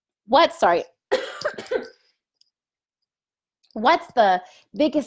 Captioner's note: coughing